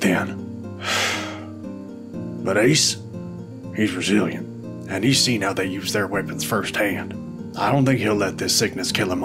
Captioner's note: sigh